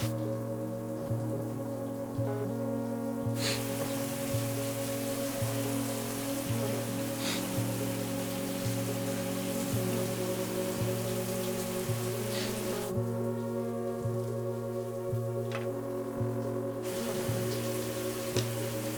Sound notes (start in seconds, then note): 3.4 man sniffing